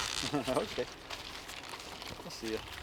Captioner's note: giggles